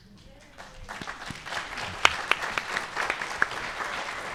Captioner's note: clapping